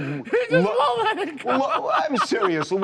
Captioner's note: laughter